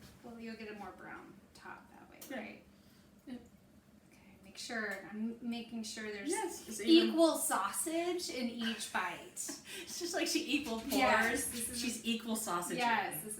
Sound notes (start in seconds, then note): 8.5 laughs